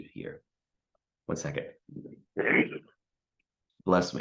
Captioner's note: sneezes